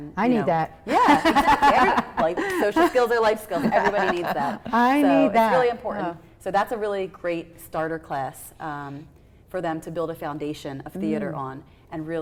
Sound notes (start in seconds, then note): 0.8 laughs